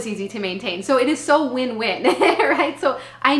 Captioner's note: laughing